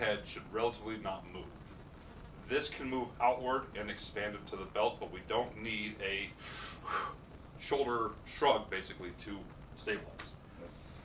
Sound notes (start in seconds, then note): 6.4 breathes